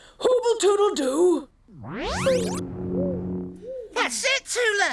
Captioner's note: zapping sound